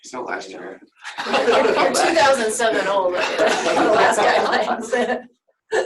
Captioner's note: laughter